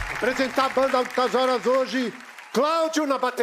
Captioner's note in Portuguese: aplausos